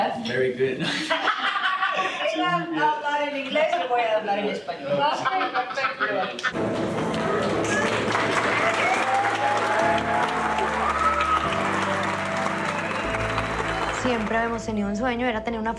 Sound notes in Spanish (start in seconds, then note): 0.1 en inglés; 0.8 risas